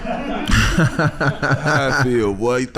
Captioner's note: laughing